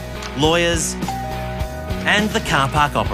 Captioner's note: doorbell rings